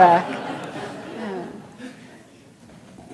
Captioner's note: laughter